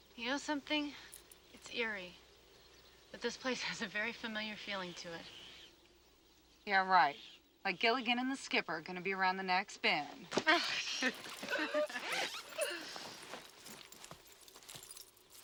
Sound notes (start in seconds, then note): 10.5 ladies laughing